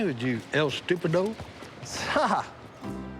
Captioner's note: laughs